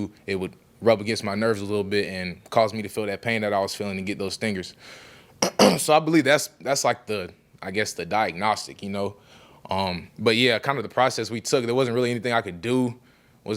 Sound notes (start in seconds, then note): 5.4 clears throat